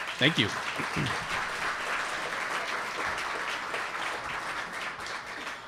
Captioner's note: audience applauding